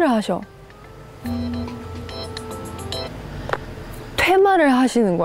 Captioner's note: phone ringing at a suspicious time…